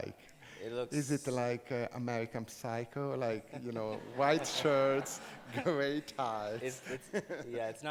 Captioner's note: audience laughs